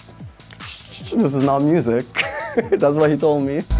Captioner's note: tshh, tshh